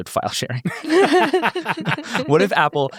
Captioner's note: everyone laughs